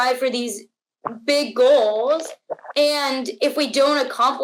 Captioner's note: throat swallowing